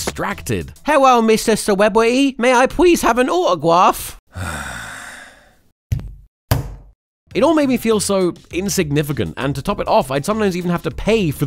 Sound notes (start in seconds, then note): 4.3 celebrity sighs; 5.9 rubber stamp